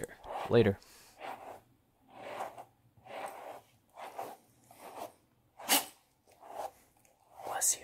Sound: Dexter sneeze

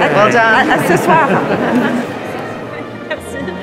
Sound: speaking in French; orchestral music; crowd chattering

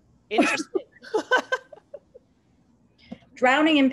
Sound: laughter

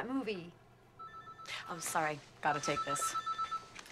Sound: cellphone rings

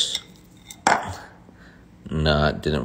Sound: bowl clinking

